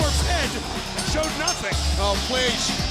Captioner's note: bell rings